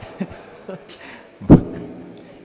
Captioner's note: laughter